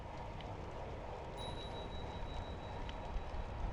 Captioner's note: ding! #2